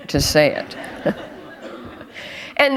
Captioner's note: laughter